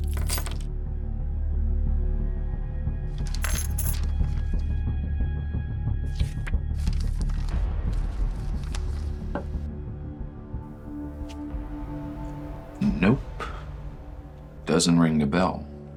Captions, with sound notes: (handcuffs clinking) (papers rustling) (slow music continues) - Nope, doesn't ring a bell.